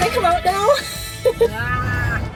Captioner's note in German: Gelächter